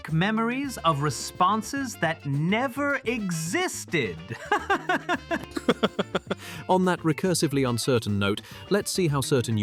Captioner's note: laughing